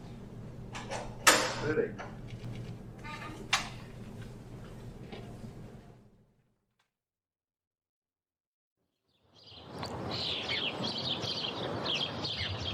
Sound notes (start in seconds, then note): 0.7 door closes